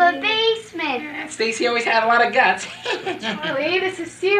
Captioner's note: laughs